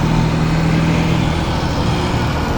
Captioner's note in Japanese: 車の音